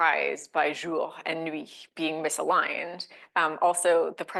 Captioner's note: speaking French